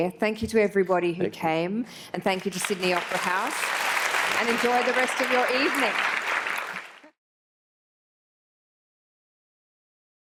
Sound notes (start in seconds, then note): 6.9 applause